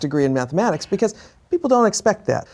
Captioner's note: laughs